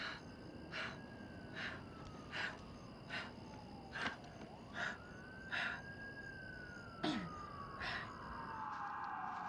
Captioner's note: heavy breathing